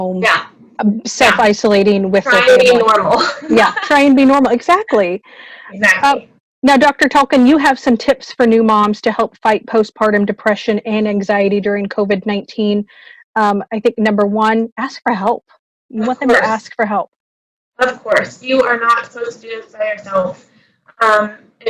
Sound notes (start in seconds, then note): 2.8 laughing